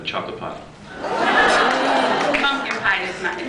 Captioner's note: various reactions